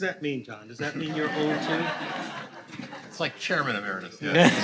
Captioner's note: audience laughing